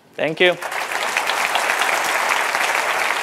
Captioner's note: applause